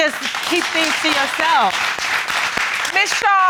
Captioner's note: audience applauds